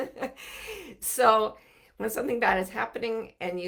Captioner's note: laughing softly